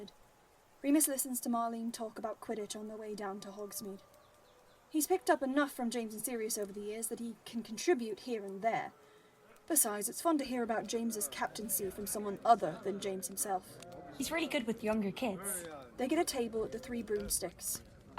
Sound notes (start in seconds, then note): 13.7 chatter in the background